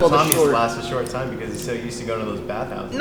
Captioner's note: all laugh